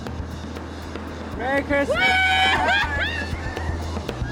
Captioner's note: whooping/laughing